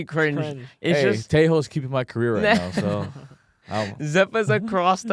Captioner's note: laughs